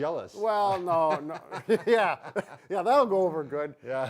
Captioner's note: chuckles